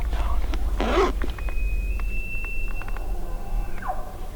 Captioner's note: elk Bugle